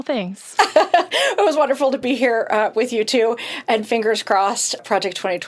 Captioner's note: chuckles